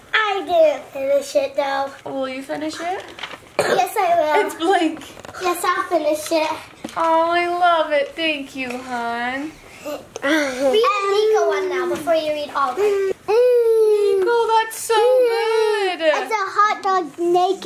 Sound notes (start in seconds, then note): 12.9 coos